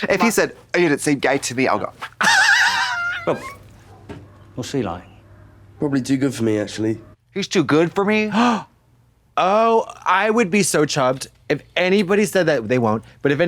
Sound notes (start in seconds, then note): 2.5 Katya rattles; 8.7 Katya gasps